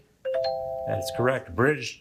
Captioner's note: bell ringing